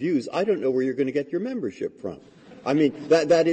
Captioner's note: laughter